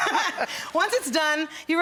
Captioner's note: laughing